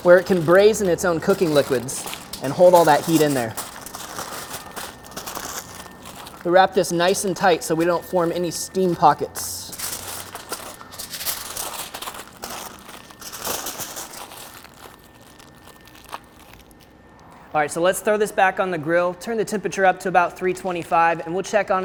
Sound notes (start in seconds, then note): 4.0 crunchy rippling; 11.6 crunchy crackling